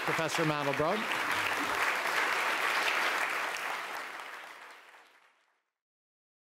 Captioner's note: applause